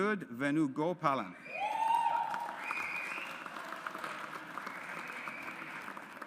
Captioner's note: audience applauds